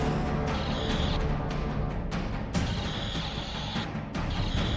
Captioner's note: blasters firing; Exoderm crackles